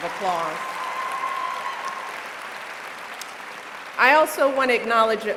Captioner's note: applause